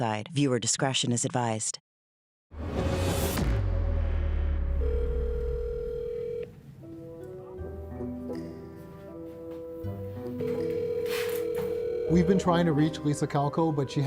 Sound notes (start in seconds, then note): 2.6 whooshing; 7.6 phone ringing